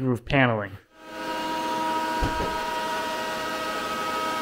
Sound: router whirs

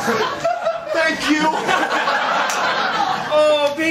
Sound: laughter

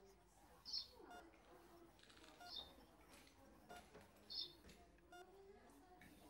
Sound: bird chirps. beeping

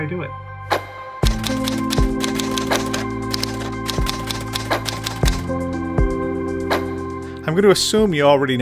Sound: typewriter sounds

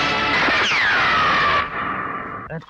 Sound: gun Shot

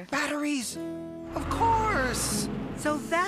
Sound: none

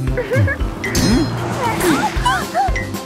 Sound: car approaching; yelps, gasps

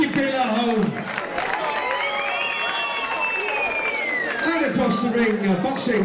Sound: crowd clapping and whistling

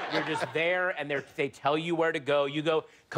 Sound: laughter

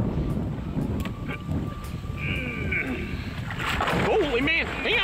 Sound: grunting

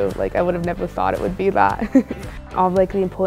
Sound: laughs

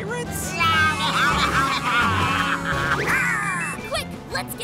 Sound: baaing

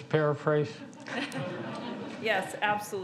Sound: audience laughs

